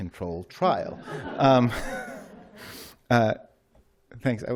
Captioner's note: laughter